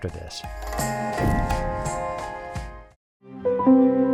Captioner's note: air whooshes